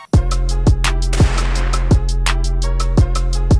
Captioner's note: expectant music; gun fires